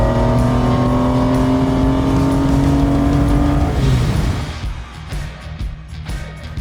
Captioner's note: car Engine